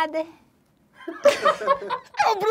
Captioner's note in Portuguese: risadas